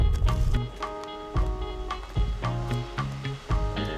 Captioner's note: river roars in distance